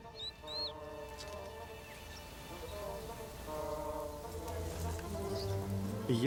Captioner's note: chirping